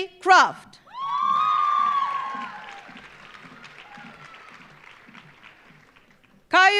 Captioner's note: audience cheering; audience applauding